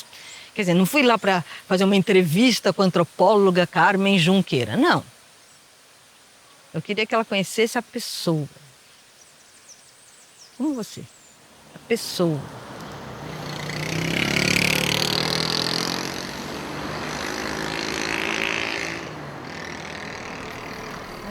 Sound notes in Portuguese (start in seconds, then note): 13.6 Sons do trânsito